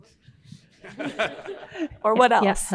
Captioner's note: audience laughing